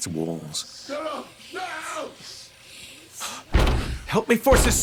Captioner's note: ghostly voices